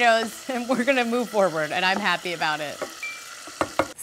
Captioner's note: ping